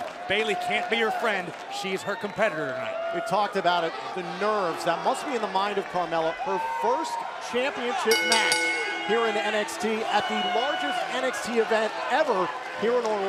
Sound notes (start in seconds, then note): 8.0 bell ringing